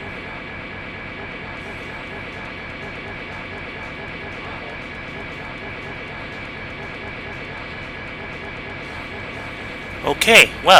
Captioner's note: seemingly endless string of Faultless Defense SFX